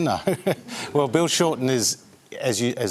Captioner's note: chuckles